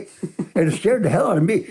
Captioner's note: laughs